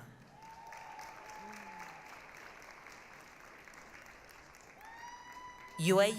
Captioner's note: applause, cheering